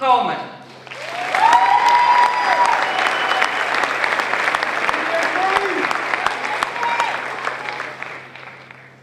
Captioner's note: applause